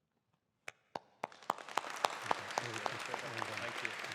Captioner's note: audience applauding